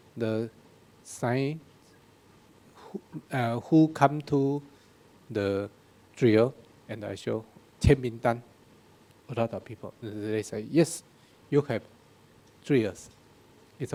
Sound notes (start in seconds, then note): 7.2 speaking in a foreign language